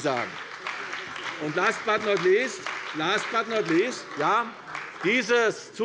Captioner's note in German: Beifall bei der CDU und dem BÜNDNIS 90/DIE GRÜNEN